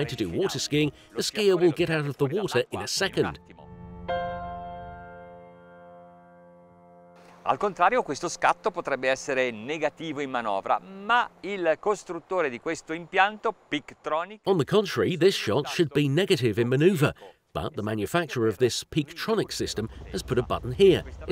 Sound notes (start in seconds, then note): 7.8 speaking in foreign language